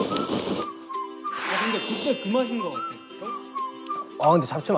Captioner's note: is slurping noodles because they taste so good